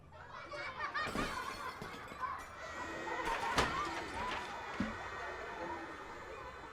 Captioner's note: children laughing; objects clattering